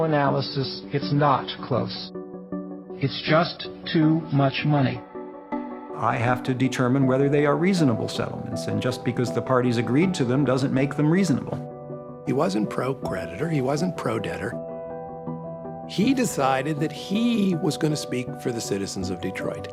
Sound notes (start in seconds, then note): none